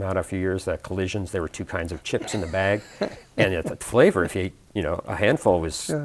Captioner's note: chuckles